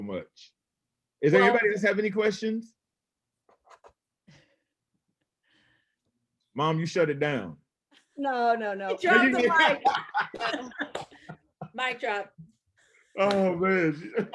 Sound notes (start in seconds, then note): 12.1 laughs